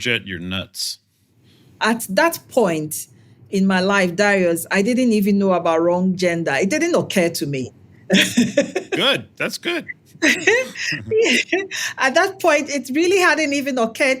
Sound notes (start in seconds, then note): 10.2 laugh